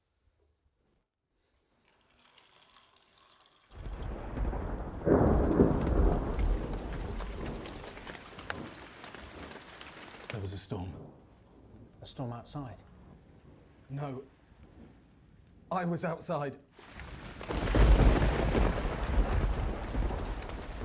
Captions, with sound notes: (liquid pouring) (thunder rumbling) - There was a storm. - A storm outside? - No, I was outside. (thunder rumbling)